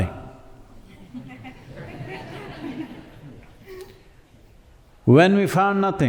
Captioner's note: laughter